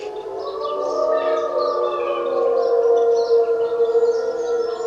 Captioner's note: wolves howling continues